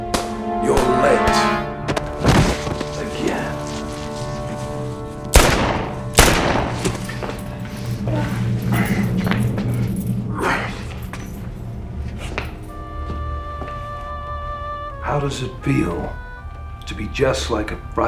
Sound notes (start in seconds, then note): 5.3 gun firing; 8.3 dramatic music